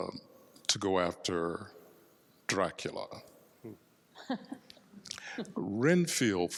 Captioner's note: laughs